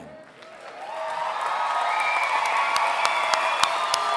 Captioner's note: applause